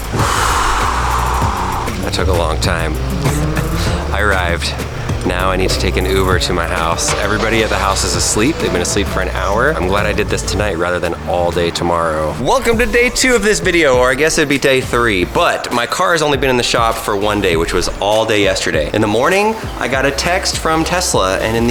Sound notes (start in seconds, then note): 0.8 exhales; 3.4 laughs